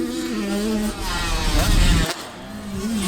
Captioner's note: whoosh sfx